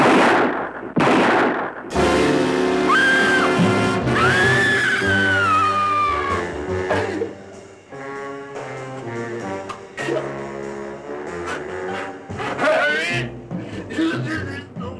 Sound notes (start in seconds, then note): 0.0 gunshot; 0.3 dramatic music; 4.1 screaming; 5.8 slow bluesy jazz music